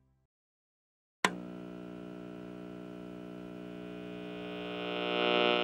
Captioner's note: radio hissing